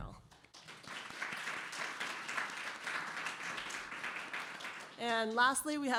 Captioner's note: applause